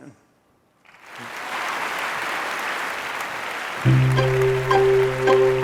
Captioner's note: audience applauding; gentle music